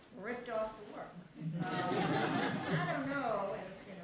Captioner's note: laughter